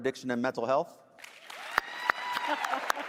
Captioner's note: cheers, applause; laughing